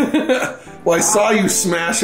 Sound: laughing

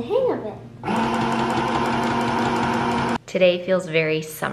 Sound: machine whirring

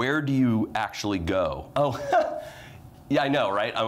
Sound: chuckles

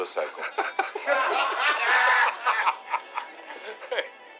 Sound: everyone laughs

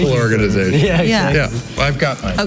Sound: laughing

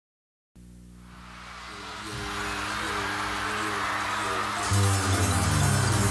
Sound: tires vibrating on wet road

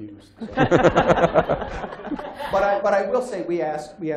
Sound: laughter

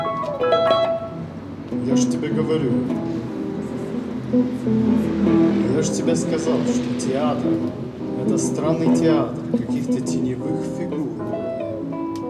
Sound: another language

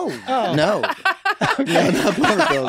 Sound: all laughing

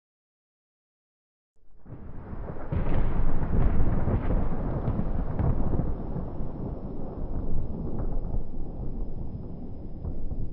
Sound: thunder rolling

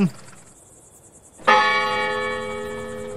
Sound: churchbell

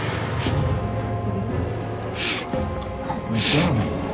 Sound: groaning

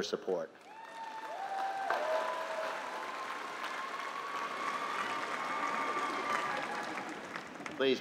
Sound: applause

